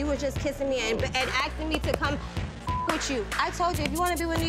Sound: beep

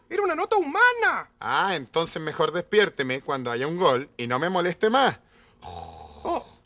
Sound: snore

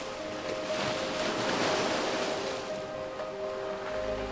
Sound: waves crashing

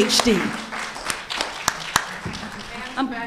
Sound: audience applauding

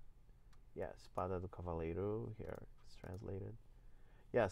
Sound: speaking portuguese

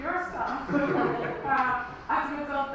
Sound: audience laughs

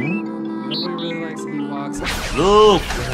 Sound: droid beeping

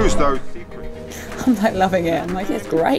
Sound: laughs

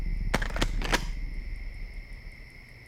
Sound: gun uncock

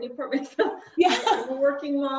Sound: chuckles

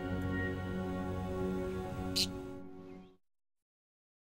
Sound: budgie twitters

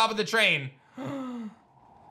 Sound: gasps

